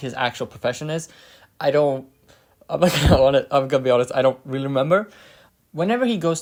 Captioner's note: laughs